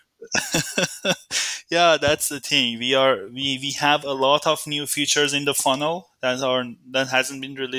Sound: laughing

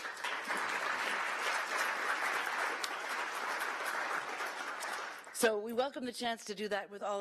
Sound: applause

